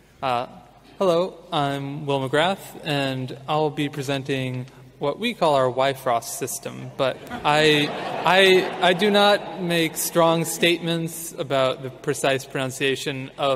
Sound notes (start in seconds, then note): 10.3 audience laughing